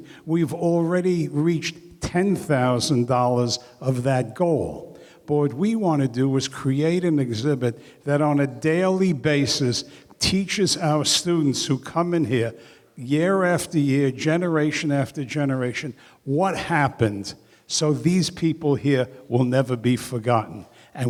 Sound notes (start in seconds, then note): none